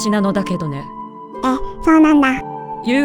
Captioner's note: laughs